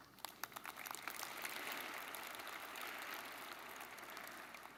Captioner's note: audience applauding